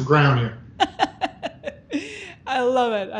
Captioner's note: laughing